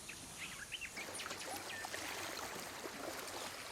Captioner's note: water splashing